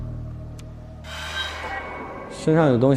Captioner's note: "Ding" tense